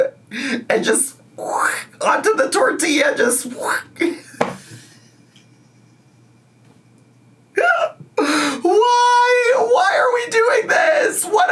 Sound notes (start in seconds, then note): 4.1 laughs